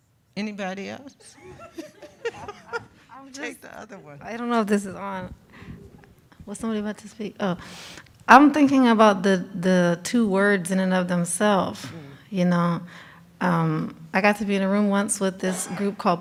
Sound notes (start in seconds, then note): 1.3 group chuckles